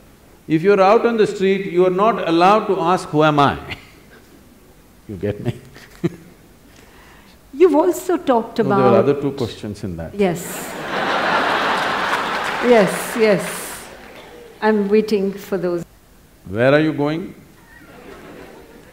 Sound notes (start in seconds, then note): 5.2 laughs; 10.6 laughter/Applause; 17.6 laughter